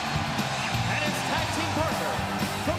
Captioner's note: crowd cheering